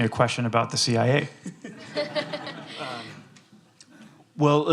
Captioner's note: laughter